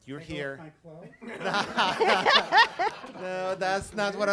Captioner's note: laughing